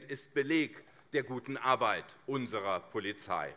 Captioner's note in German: none